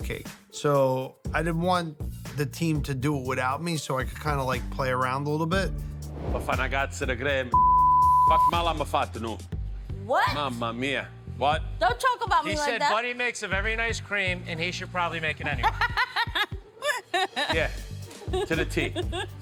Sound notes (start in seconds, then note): 5.8 speaking Italian; 15.5 laughs